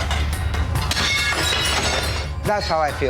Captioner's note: dishes shattering